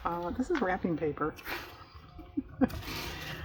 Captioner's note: laughs